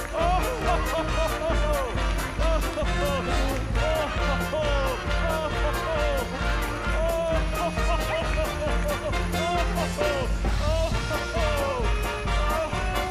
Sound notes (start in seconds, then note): 2.8 Santa "Oh, ho, ho, ho-ing"